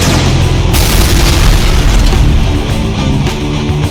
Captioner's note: explosion booms